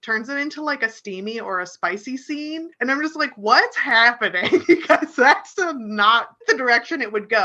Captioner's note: chuckles